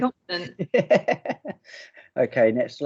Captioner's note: laughing